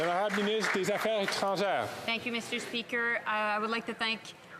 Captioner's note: off mic; speaking french